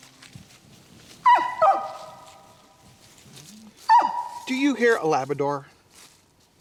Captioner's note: labrador yipping